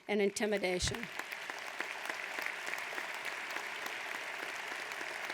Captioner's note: audience applauds